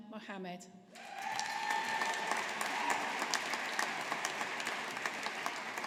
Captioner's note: audience applauding